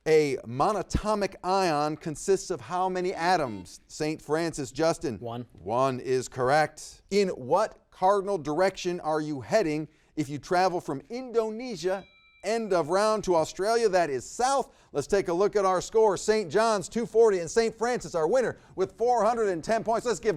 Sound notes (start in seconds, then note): 3.4 buzzer beeps; 11.3 bell rings